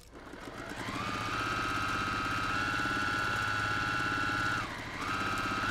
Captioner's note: sewing machine humming